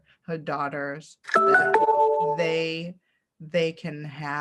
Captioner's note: computer notification bings